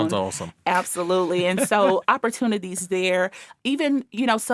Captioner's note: laughing